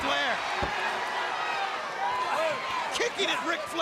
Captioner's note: crowd cheering